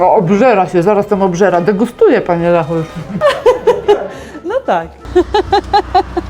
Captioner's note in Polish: śmiech